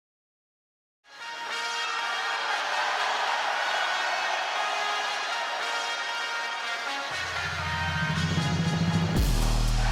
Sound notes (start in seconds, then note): 1.3 upbeat music; 2.8 crowd cheer; 6.4 upbeat music